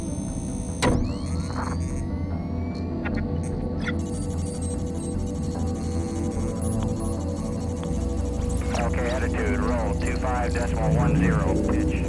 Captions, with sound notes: [faint buzzing] [high-pitch beeping] [man over radio] Okay, attitude, roll 2-5, decimal 1-0.